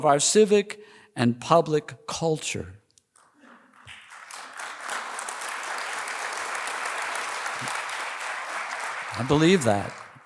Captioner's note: applause